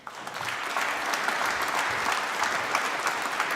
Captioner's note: applause